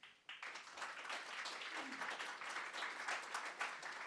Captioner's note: audience clapping